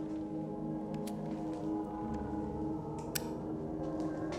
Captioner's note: lighter clicking